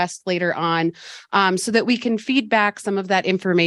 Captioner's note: none